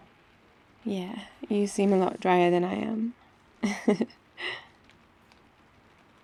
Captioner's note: laughs